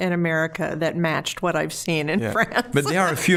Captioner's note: laughing